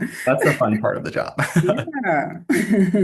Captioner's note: laughter